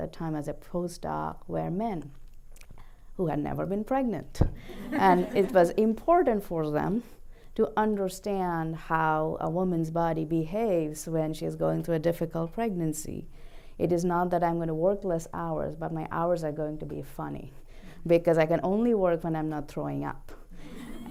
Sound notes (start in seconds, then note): 4.7 laughter